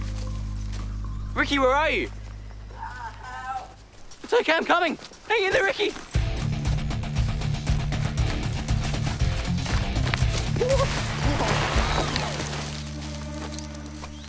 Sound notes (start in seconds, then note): 8.1 dramatic music plays; 10.6 shrieks